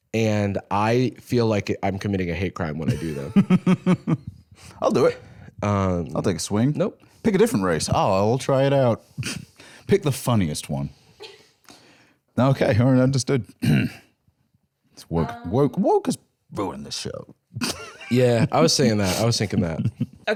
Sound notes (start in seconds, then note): 2.9 laughs; 13.6 clears throat; 17.6 laughs